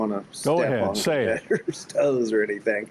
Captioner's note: pat